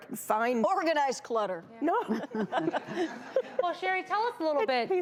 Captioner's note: laughing